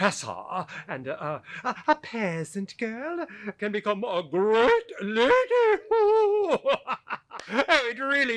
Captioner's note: chortles